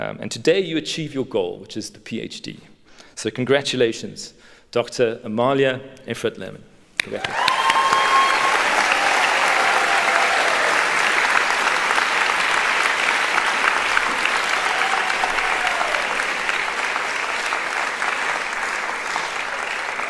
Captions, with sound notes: And today you achieve your goal, which is the PhD. So congratulations doctor Amalia and Fred Lehman. Congrats [APPLAUDING] [CHEERING]